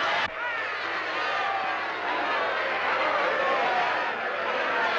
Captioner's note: crowd shouting